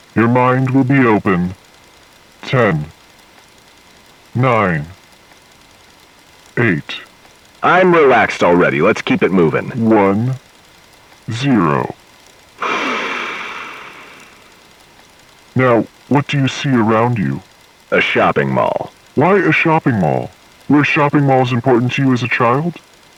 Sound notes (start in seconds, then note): 12.6 breathing deeply